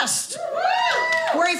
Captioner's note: audience cheering